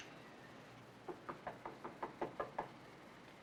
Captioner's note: knocking on door